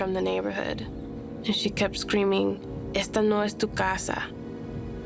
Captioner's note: spanish